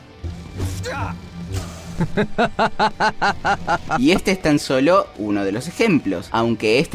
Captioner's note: Anakin laughing as he kills a Jedi